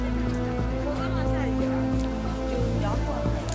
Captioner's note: woman speaking Chinese